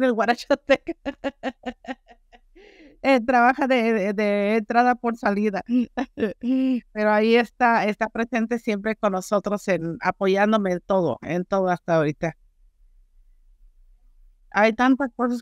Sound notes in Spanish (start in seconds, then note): 5.8 risas